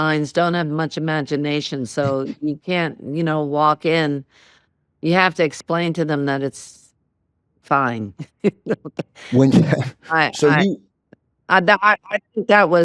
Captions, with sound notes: don't have much imagination. So you can't, you know, walk in. You have to explain to them that it's fine. -(LAUGHING) -When-- (LAUGHS) I think that was,